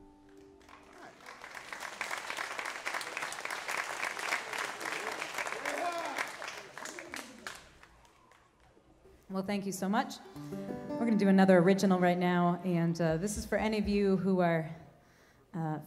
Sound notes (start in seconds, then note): 0.5 applause